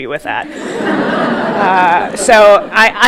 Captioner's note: audience laughing